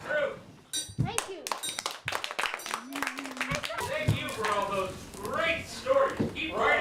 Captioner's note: applause